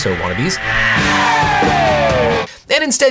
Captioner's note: rockstar screams